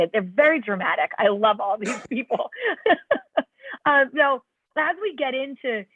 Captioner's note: laughter